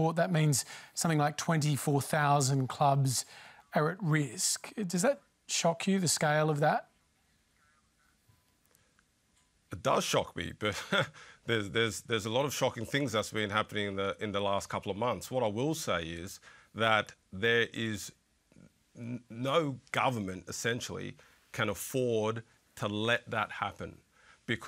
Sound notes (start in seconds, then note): 10.6 chuckles